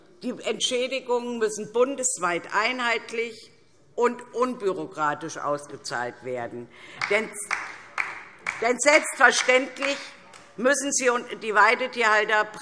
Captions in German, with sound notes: Die Entschädigungen müssen bundesweit einheitlich und unbürokratisch ausgezahlt werden; [Beifall DIE LINKE] denn selbstverständlich müssen die Weidetierhalter